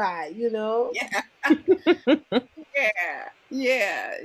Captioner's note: laughter